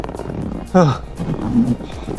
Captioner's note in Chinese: 嘆氣+喘氣